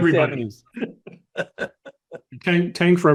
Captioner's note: group laughing